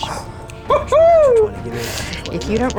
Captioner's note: cheering